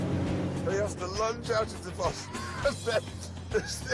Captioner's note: laughs